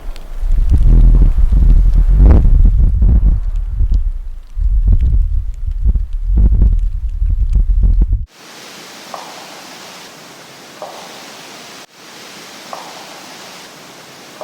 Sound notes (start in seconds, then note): 2.5 downpour trickling; 2.5 tree knocking; 9.2 downpour trickling; 9.2 tree knocking